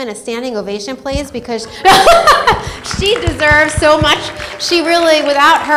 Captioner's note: laughs